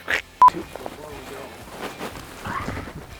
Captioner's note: beep